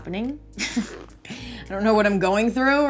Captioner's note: chuckles